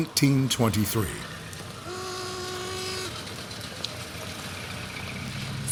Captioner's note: sounds of street noise and car horns